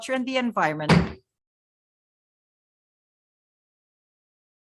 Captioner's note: gavel bangs